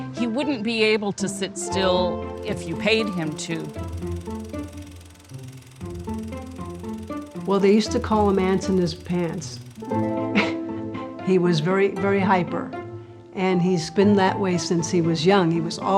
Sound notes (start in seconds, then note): 4.4 projector whirring; 10.6 laughs